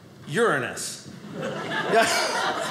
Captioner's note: audience laughing